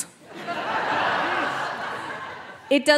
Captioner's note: audience laughing